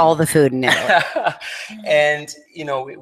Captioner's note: laughs